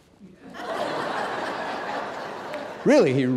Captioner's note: audience laughing